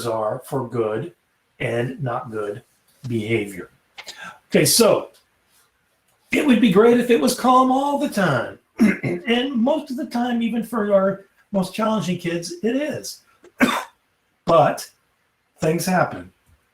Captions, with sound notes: are for good and not good behavior. OK. So it would be great if it was calm all the time (CLEAR THROAT). And most of the time, even for your most challenging kids, it is, (COUGHS) but things happen.